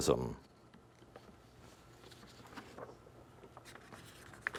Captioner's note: whispering